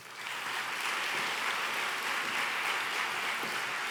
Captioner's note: applause